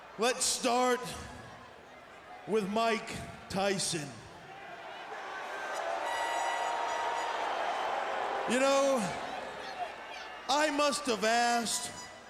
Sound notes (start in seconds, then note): 6.3 crowd booing